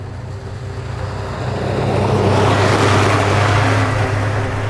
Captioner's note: vehicle whooshes